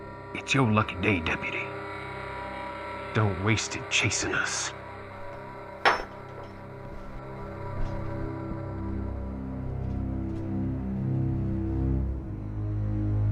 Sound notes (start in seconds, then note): 5.8 badge clanks on floor; 9.8 ominous music